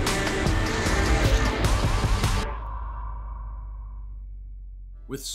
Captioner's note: car engine roaring